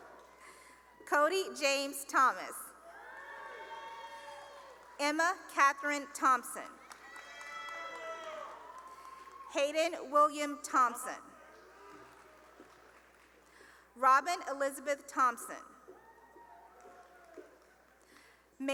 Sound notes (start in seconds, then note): 0.0 cheering; 2.8 cheering; 6.7 cheering and applause; 11.8 cheering and applause; 15.9 cheering